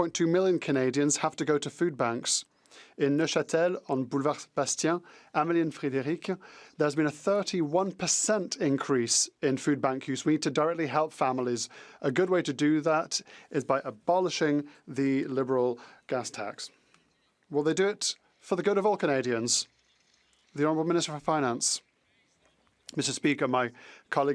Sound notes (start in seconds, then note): 8.6 speaking French